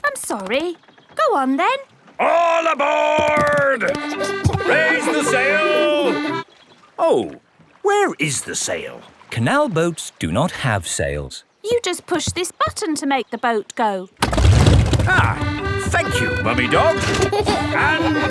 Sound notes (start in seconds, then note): 4.0 kids laughing; 15.1 boat engine revs; 15.4 kids giggling